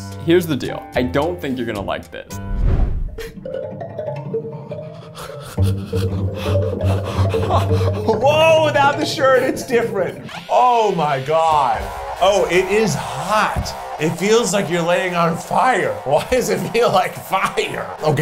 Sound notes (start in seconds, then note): 3.7 ominous music; 4.8 heavy breathing